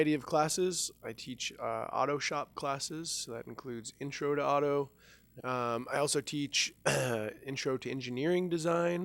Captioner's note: clears Throat